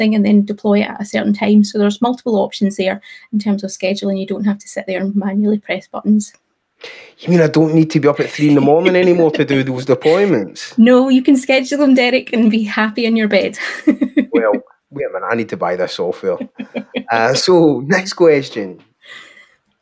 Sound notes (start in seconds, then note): 13.6 chuckling; 16.2 chuckling